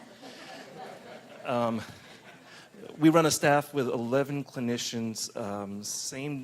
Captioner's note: laughter